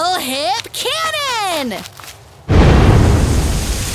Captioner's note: leaves fall; loud impact